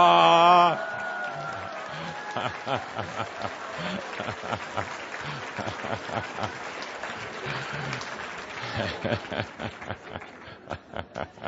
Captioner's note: lots of laughter and applause, laughing